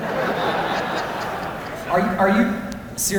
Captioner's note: laughter